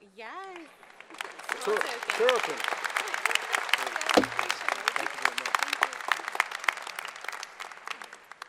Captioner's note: applause